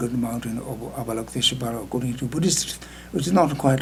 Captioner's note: speaking foreign language